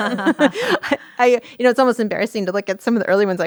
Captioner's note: both laughing